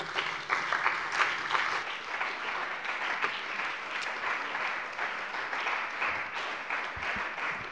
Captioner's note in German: Beifall bei dem BÜNDNIS 90/DIE GRÜNEN und der CDU sowie bei Abgeordneten der SPD